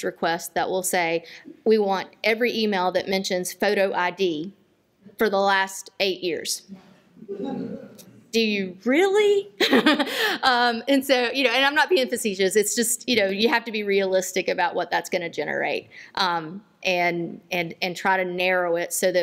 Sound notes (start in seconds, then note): 9.6 laughter